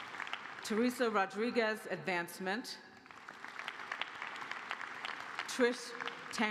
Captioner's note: applause; applause